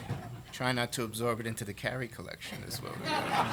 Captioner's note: laughter